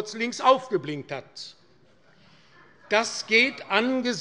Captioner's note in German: Heiterkeit bei Abgeordneten der SPD